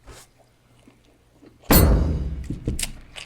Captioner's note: thud